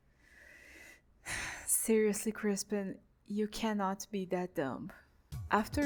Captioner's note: sigh